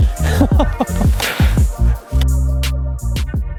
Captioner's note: laughing